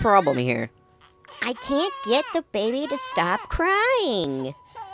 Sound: baby Crying

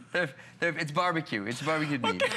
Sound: laughter

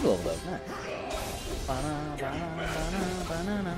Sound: humming

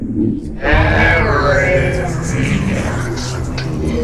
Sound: creepy Voice

